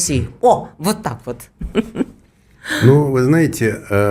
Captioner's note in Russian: смех